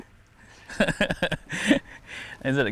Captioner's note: laughs